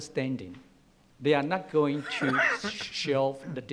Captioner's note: coughs